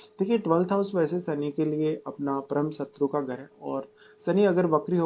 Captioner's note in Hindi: नाक से की जाने वाली आवाज़